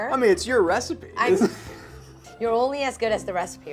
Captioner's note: laughing